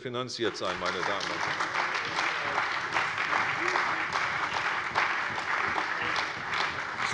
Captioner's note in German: Beifall bei der CDU und dem BÜNDNIS 90/DIE GRÜNEN